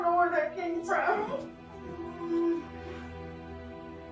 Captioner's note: sobs; crying